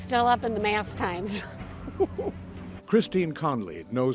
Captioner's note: laughing